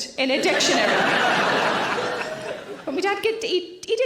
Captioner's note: audience laughing